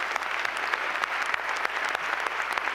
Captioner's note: applause